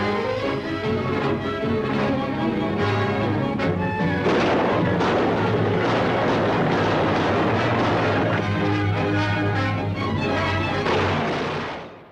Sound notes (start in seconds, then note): 4.1 gunshots